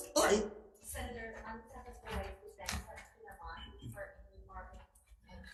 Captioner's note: staff member speaking faintly